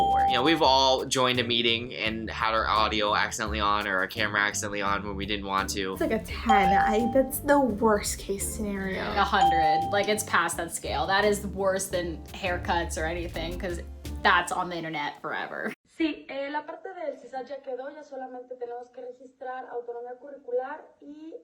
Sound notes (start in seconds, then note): 15.7 woman speaking in foreign language